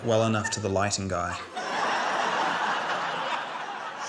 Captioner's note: laughter